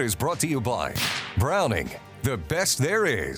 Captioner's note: rifle firing